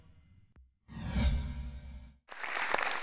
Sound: woosh; audience clapping

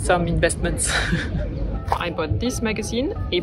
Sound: laughs

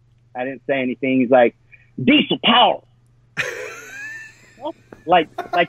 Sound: laughs

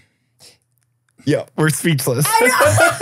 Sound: laughs

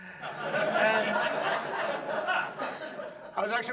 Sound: audience laughs

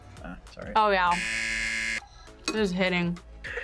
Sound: buzzer

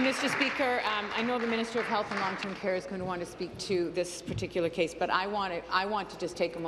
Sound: applause

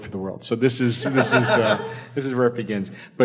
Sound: panel laughs

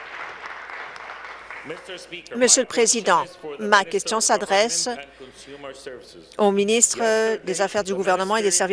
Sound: applause

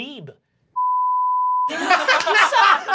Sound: beep; laughing

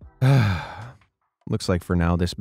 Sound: person sighing

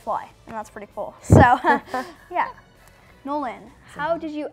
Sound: laughs

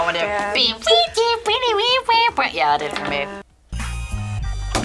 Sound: beat boxes; upbeat music

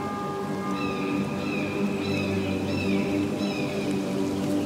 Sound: bell ringing; bird cawing; tense music continues

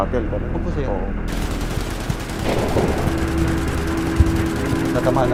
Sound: gunshots fired

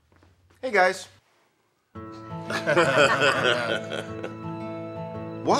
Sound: laughter

